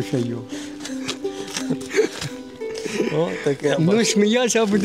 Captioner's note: laughs